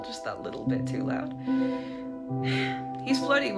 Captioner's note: sigh